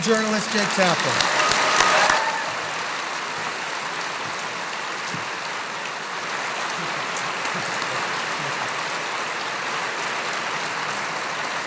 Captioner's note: applause